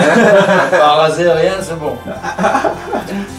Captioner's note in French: rires